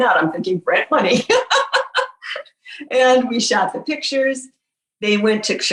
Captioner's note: laughing